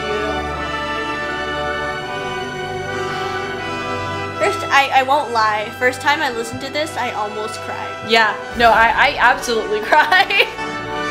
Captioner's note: laughs